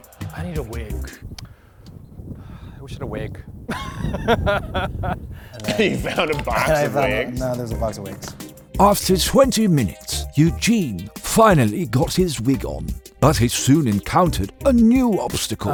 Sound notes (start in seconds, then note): 2.3 sighs; 3.6 laughs